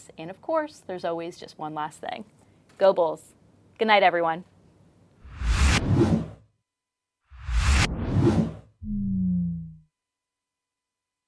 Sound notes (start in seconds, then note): 5.3 whooshing sounds